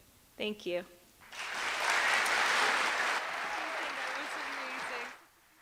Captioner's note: cheers and applause